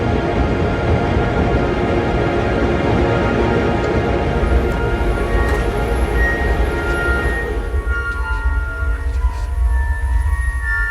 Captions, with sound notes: (intense music continues) (door opens and closes) I can do this.